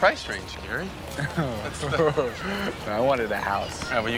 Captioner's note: chuckles